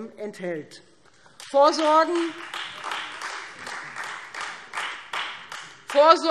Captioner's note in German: Beifall Freie Demokraten